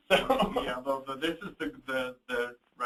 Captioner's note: laughs nervously